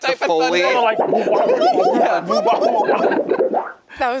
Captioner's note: warbling sounds